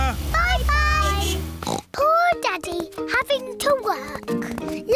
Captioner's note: horn beeps; oinks